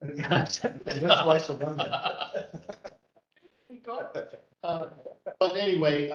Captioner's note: laugh